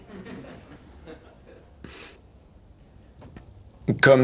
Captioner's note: laughter